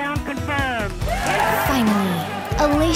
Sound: crowd cheers

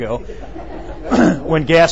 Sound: laughing

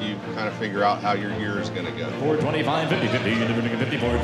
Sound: auctioneer calling

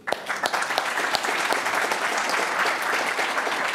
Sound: applause

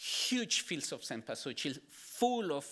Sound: speaking Spanish

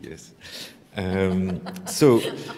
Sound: laughter

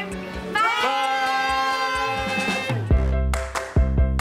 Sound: all yelling; upbeat funky music

